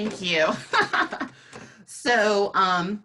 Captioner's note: laughing